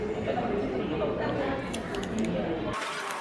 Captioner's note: Crunch